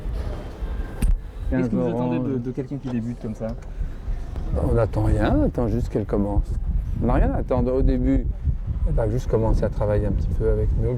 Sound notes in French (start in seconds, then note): none